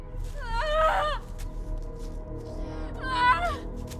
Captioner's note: Estrid screaming